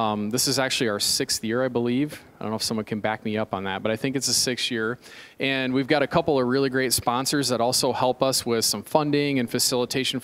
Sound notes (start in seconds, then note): none